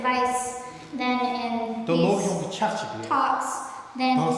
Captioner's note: speaking tibetan